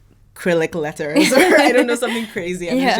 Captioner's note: both laughing